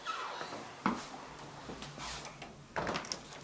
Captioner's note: squeaking and closing of a door